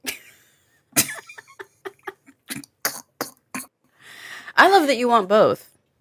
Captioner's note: chuckle